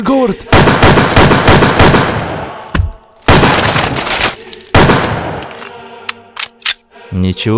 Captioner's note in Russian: Выстрелы